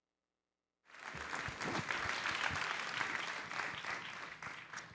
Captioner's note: audience applauds